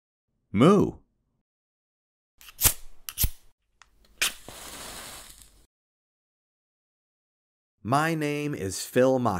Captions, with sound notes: Moo! [Spark sounds] My name is Phil Machi